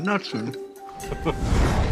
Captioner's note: Jack chuckles; rock music playing